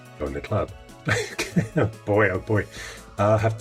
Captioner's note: laughing